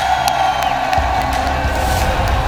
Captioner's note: crowd Cheering